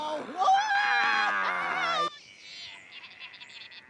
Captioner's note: Wicked cheering